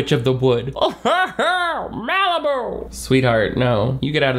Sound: laughs

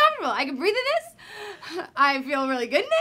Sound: catches breath

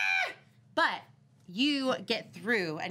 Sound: screaming

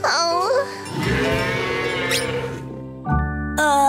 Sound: mooing

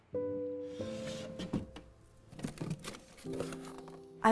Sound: drawer sliding

